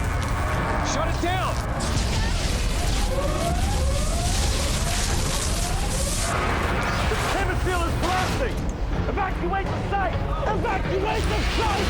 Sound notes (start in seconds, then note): 2.8 sirens wailing